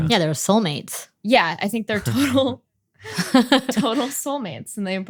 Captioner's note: laughing